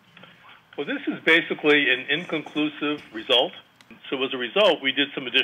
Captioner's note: on phone